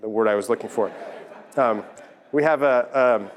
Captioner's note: laugh